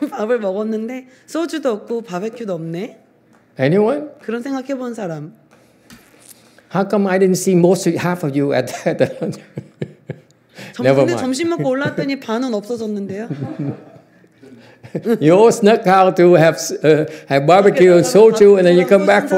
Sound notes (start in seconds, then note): 8.7 laughs